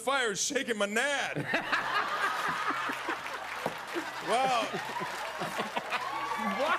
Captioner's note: laughter